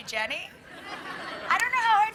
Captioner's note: crowd laughing